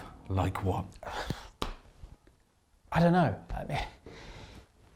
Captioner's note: sighs